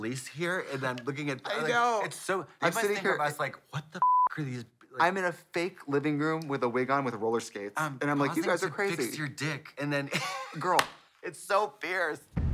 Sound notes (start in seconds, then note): 4.0 beep; 10.3 wheezes